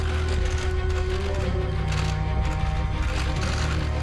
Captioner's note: cameras clicking